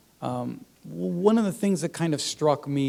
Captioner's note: none